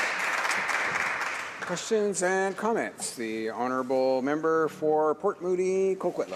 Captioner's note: applause